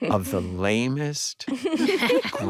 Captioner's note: all laugh